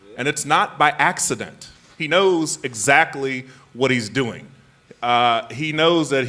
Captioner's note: none